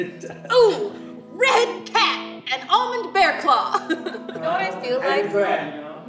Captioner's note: chuckles